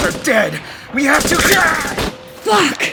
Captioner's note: gun shots